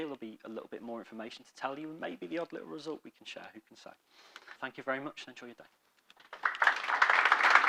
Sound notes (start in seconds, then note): 6.2 audience applauding